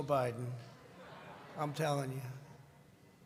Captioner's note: laughter